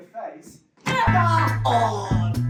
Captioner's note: clomp